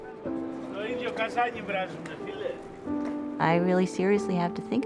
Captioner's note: speaking foreign language